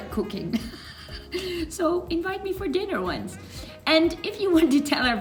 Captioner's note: laughs